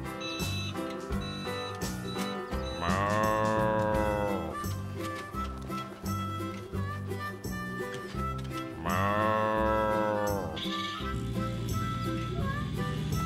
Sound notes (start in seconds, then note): 1.6 cows mooing